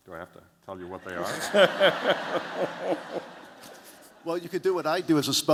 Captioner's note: laughter